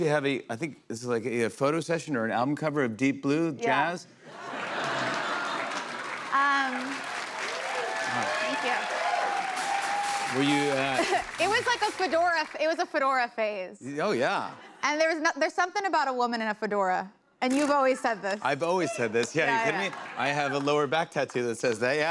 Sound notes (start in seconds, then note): 6.9 cheers and applause